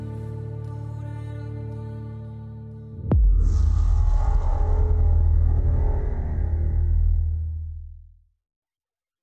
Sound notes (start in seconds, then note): 3.0 transition sound